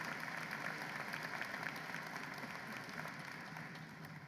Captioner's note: applause